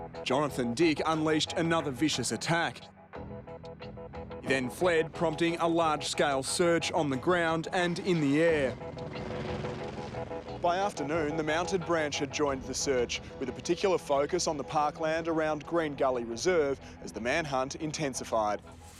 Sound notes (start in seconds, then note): 9.3 helicopter blades whirring